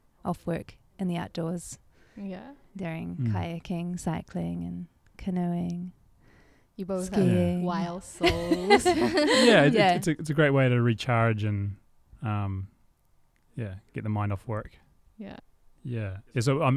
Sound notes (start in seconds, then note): 8.2 laughing